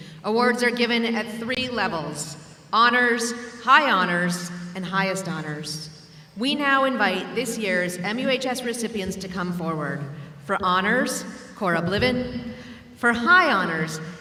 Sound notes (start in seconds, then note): none